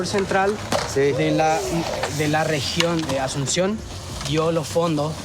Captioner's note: upbeat Music; speaking In Foreign Language